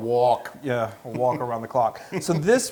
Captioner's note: laugh